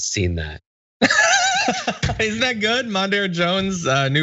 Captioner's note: laugh